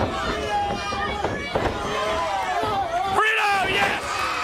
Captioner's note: crowd chatter